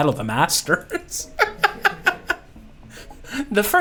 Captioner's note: laughter